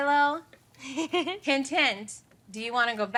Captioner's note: laughs